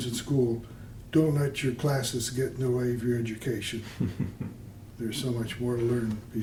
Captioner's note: laughter